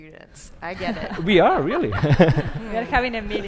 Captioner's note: laughs